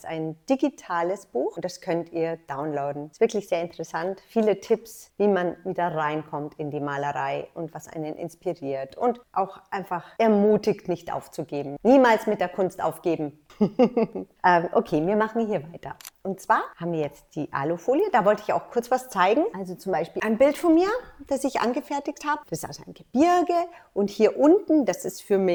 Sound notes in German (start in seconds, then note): 13.5 lacht